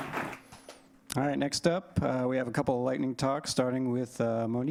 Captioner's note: applause